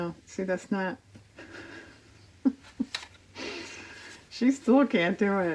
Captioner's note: laughs